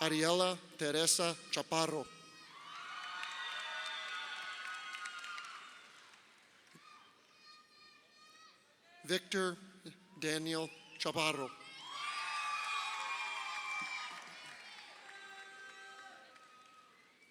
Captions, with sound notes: Aryella Teresa Chapparo. (crowd cheering) Victor Daniel Chapparo. (crowd cheering)